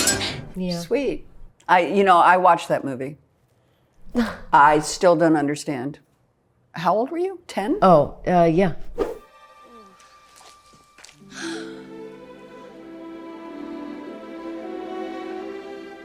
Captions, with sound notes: Yeah. - Sweet. You know, I watched that movie. I still don't understand. How old were you? 10. - Oh yeah. [gasps]